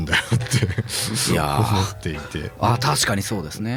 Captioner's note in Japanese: 笑い